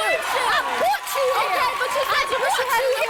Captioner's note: cheering